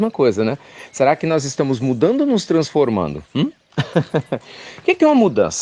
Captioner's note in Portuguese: Risos